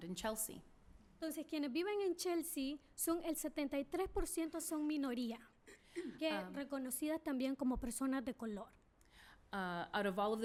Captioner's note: speaking spanish